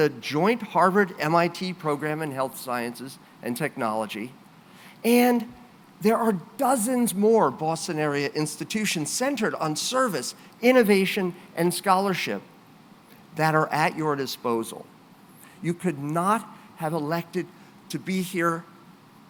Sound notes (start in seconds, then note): none